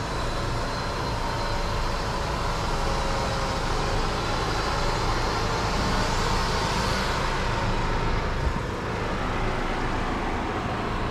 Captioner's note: construction noise